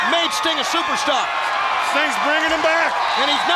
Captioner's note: crowd cheering